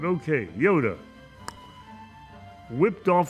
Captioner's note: clicks tongue